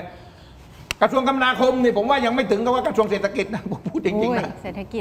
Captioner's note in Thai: เสียงหัวเราะ